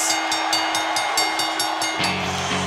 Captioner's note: bell ringing